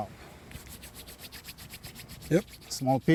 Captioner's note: hands rubbing together